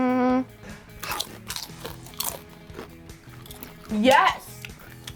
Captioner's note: chomping loudly